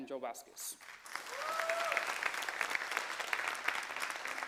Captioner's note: cheers, applause